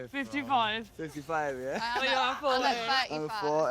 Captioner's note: laughs